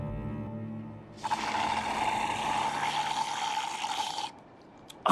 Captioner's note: slurping sound